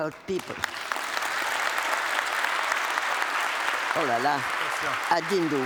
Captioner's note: applause